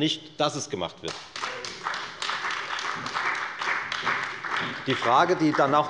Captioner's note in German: Beifall bei der FDP und der CDU